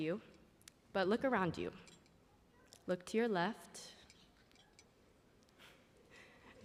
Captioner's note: laughter